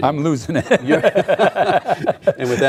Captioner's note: laughing